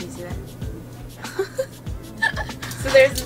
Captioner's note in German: Lachen